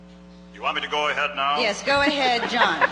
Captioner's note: voiceover